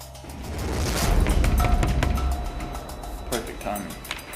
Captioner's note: Jason pounds on door